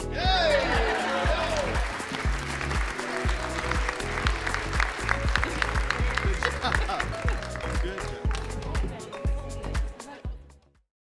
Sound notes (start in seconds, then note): 0.1 all cheering; 0.6 all clapping; 6.2 school staff laughing; 7.4 school staff chattering; 8.6 upbeat music